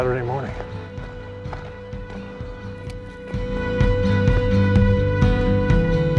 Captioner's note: birds chirping